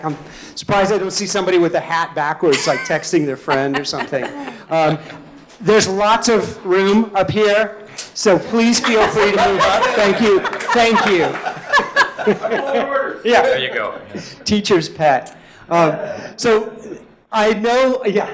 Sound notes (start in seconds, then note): 12.0 all laughing